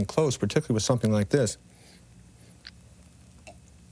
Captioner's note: sniffs